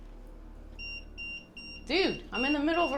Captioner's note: EMF beeping